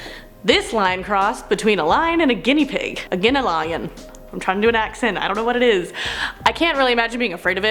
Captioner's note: australian accent